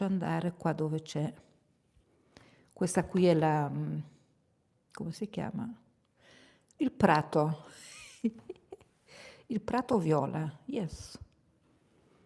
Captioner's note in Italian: sbuffare; risate